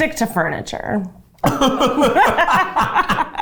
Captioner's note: both laughs